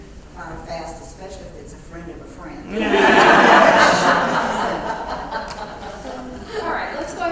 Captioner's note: laugh